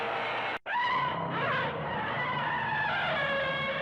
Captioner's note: Various Gamera Noises FX